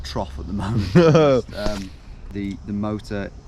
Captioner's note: laughs